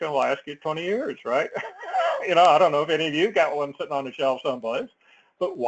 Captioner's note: laugh